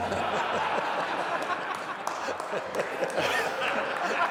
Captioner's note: laughter